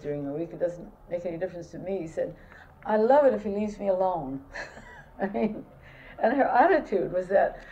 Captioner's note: laughter